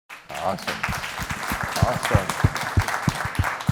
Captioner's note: applause